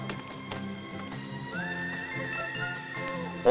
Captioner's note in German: Knisterndes Feuer